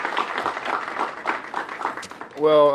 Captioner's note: applause